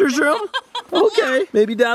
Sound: laughs

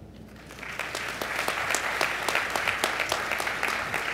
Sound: applause

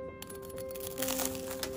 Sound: crunch

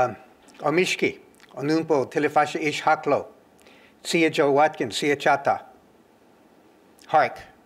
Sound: non-english speech

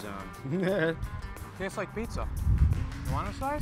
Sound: laughs

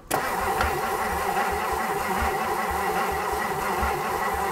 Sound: vehicle engine humming

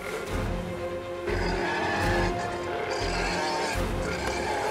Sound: roars

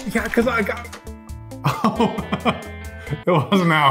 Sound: laughing

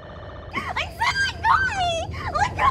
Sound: screaming

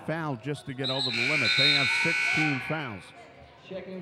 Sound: buzzer dings

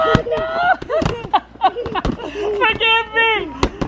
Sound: laughs

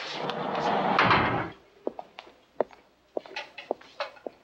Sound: cell door slams

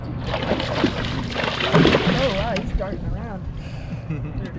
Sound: fish splashing

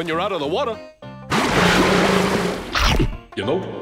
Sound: growling; voice echoing

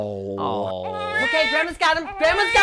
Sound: baby crying

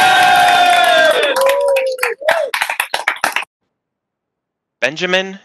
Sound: cheering

